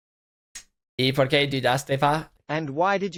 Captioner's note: silence; in Spanish; text-to-speech in English